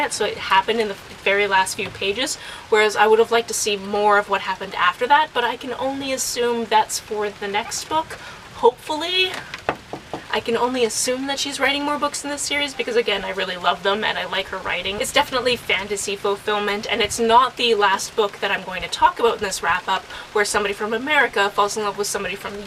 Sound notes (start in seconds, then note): 9.6 knock wood